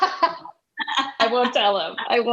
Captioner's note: laughing